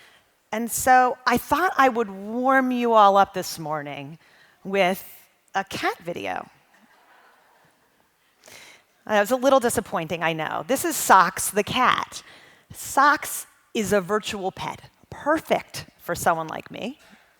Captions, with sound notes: And so I thought I would warm you all up this morning with a cat video. (audience chuckling) I know it's a little disappointing I know. This is Sox the Cat. Sox is a virtual pet, perfect for someone like me.